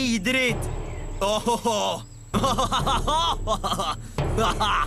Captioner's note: laughs